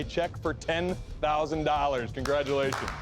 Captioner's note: applause